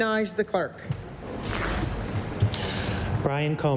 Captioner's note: none